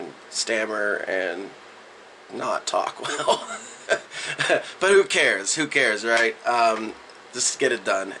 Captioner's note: laughs